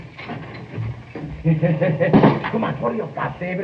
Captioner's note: bob chuckling